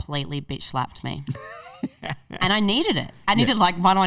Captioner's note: laughing